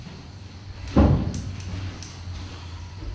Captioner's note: platform creaks